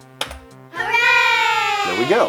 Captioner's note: IBM Model M clicky keyboard typing; cheering